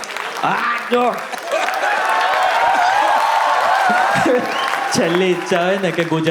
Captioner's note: crowd applauding